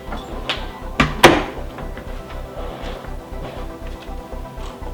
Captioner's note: door thudding